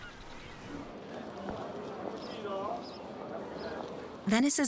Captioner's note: people chattering